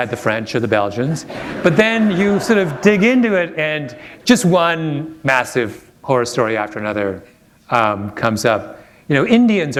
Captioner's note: chuckle